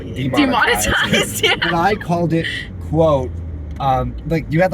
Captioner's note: laughing